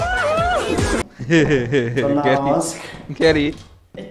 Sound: devious laughter

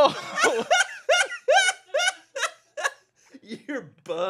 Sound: laughs

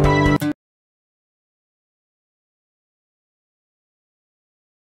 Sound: silence

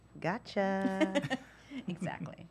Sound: laughter

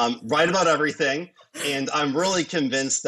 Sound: chuckles

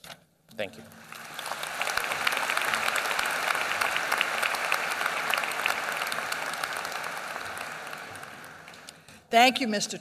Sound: applause

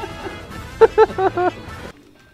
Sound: laughter

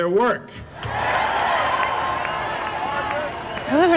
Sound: cheering

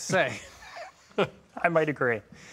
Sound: laughing

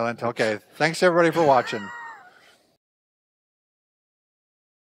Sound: laughs

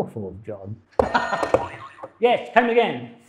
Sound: game buzzer; laughs

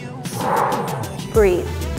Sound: huffs air out

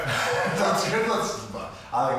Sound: laughs

